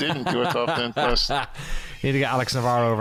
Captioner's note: laughter